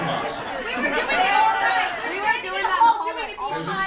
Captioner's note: audience cacophony